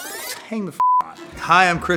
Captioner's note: beep